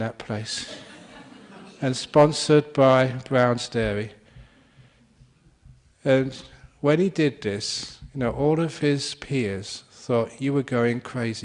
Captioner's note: laughter